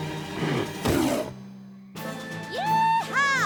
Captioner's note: thud!